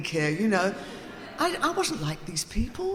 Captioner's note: audience laughing